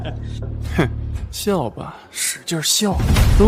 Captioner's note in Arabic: يضحك